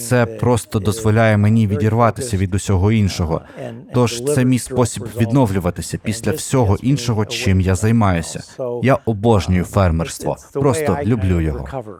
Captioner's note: laughs